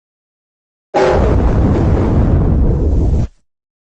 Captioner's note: Giga Zalgo Windows XD Random Edition Shutdown Sound